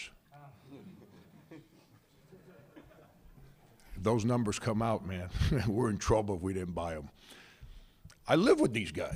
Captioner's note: laughter